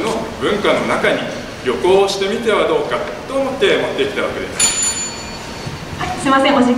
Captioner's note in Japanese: 終了のベルの音